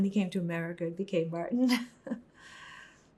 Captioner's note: laughing